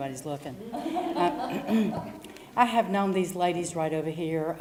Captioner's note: laugh; cough